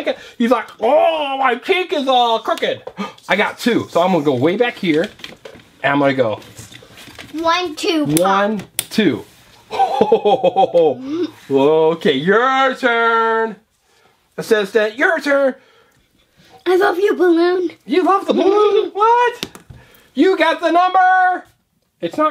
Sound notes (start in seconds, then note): 8.6 voiceover; 9.7 laughing; 18.2 voiceover